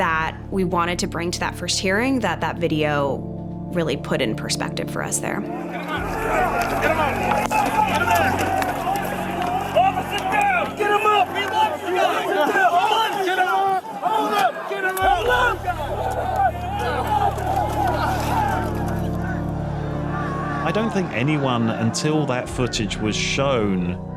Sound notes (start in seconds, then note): 11.6 officers shouting; 18.0 shouting continues